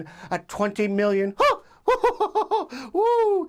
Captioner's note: laughs